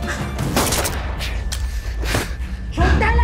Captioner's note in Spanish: Disparo